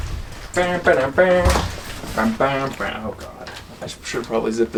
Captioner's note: humming the A-Team theme